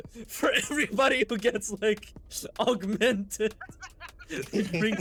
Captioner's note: laughs